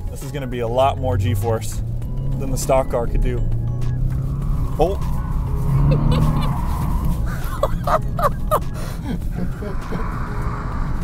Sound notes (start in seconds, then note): 4.6 engine revving; 5.6 tires screeching; 7.2 laughing